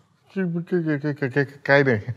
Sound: Manan Stammers

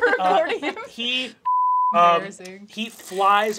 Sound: beep

